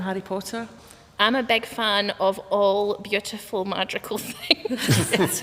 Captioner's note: laughter